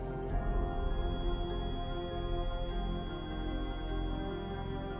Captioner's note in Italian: rumore acuto con sottofondo incalzante